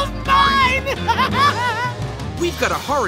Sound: laughing

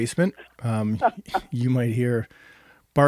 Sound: laughing

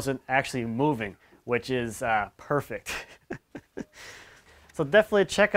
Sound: laughs

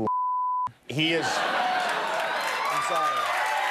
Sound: laughter

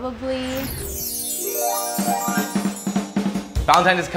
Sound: twinkle

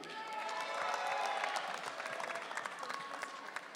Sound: audience cheering

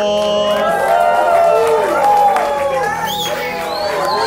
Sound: crowd woohs!

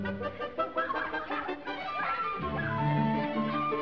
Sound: giggling

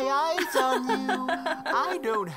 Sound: Toriel is laughing

